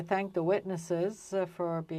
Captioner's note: speaking french